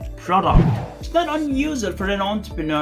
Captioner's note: air swooshing